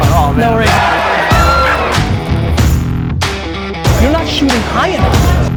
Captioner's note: crowd cheers